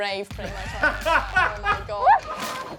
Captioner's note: laughs